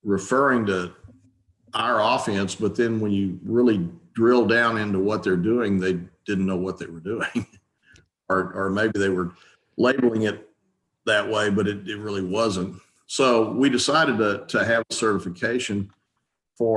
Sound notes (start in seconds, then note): 7.1 chuckles softly